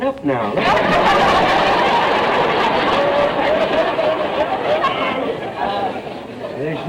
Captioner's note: audience laughter